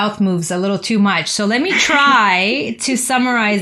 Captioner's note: laughter